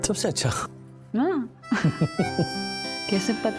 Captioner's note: both chuckle